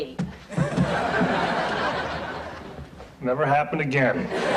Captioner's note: audience laughs